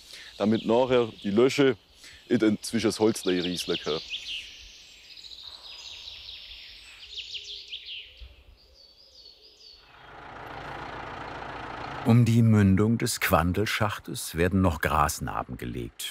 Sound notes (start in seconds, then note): 5.1 birds chirping; 9.8 engine humming